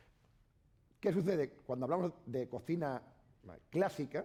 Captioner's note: speaking spanish